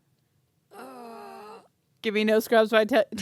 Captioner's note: groaning